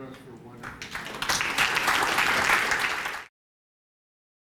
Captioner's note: applause